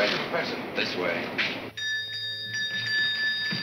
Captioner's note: bell ringing